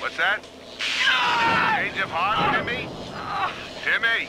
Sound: Timmy screams from electrocution

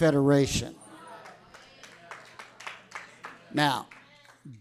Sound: audience applauding

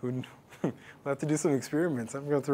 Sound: laugh

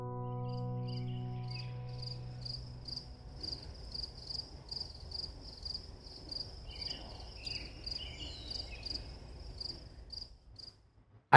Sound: crickets

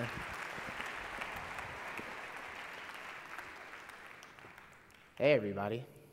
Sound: applause

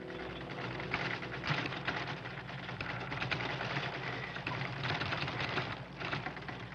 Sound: metal rattling; tremors shaking wheelchair

